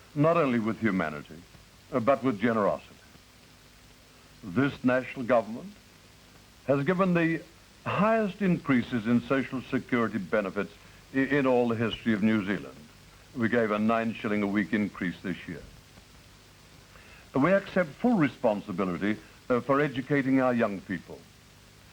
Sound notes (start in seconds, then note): none